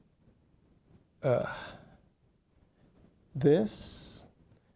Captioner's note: sighing